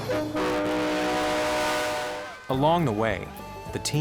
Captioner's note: truck horn honking